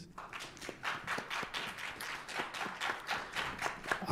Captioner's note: applause